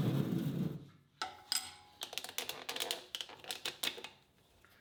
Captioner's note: metal clanking